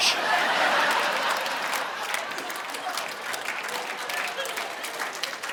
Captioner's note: audience laughing